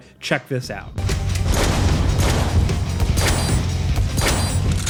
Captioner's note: gun firing